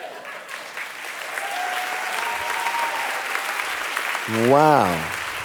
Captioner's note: audience applauding